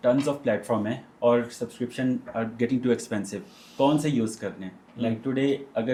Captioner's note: nasal sound